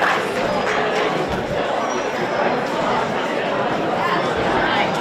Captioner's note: audience chatters